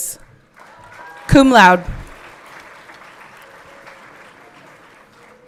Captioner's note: everyone clapping